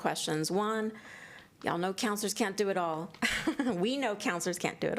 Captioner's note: chuckles